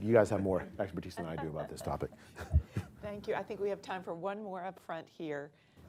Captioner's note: laughter